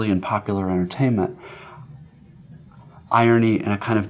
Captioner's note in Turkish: none